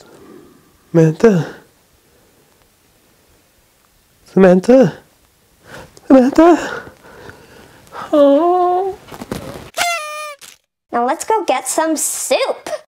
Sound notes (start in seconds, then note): 7.8 quietly wails; 9.7 noisemaker blasts